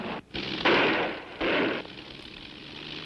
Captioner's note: engine sputters